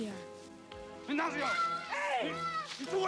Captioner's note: man speaks Indigenous language